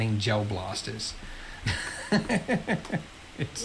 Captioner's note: laughs